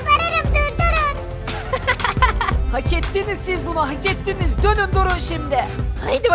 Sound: laughter

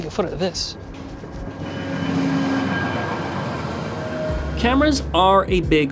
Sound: train rattling

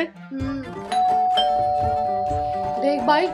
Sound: door bell ringing

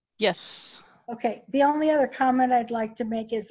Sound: on phone

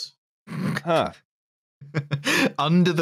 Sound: snorts

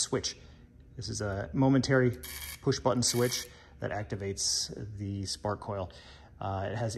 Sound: buzzes

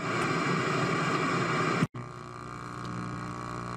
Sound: static and Feedback noise is heard

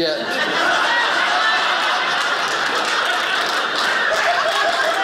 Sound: audience laughing; audience applauding

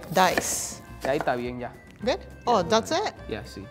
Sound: speaking in foreign language

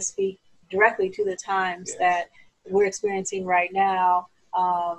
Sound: laughing

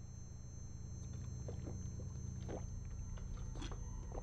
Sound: gulping

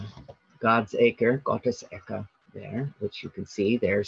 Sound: speaking in German

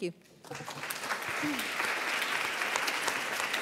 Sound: applauding

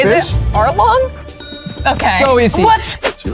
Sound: bell dings

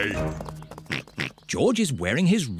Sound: oinks

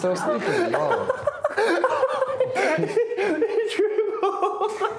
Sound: laughing

